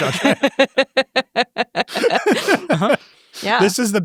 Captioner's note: everyone laughs